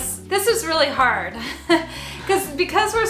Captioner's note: laughs